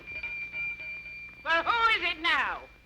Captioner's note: bell ringing